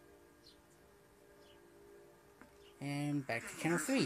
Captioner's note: train horn blares in distance